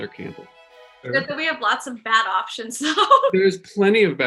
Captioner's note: laughs